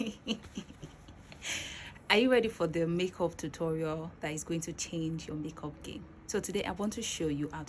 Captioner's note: laughs